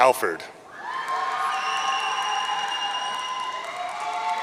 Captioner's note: audience cheering